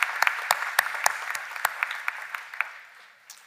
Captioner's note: applause